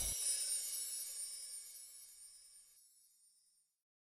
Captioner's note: soft chiming